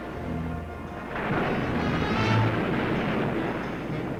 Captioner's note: waves crashing